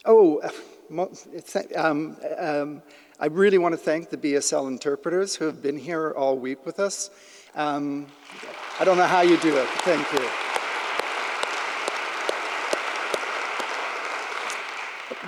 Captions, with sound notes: Oh, I really want to thank the BSL interpreters who have been here all week with us. I don't know how you do it, thank you. (claps) (audience applauding)